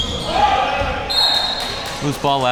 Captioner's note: whistle blowing